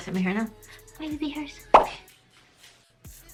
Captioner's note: gasp